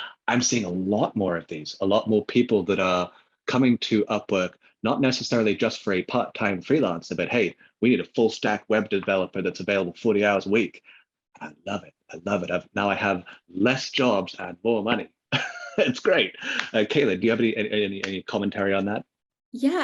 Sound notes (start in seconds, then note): 15.3 laughs